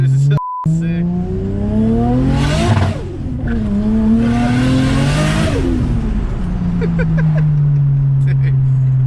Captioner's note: laughs